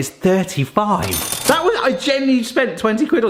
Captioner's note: cash register sound effect